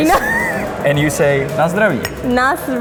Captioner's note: laughing